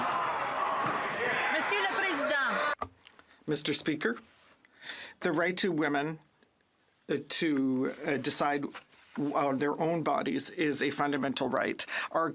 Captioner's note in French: voix de l'interprète